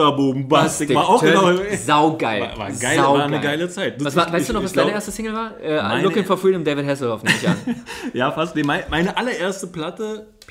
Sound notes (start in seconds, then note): 7.2 laughs